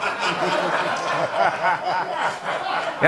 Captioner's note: laughter